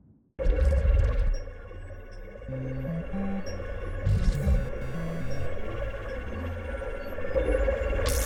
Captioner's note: drones ambulating, beeping to each other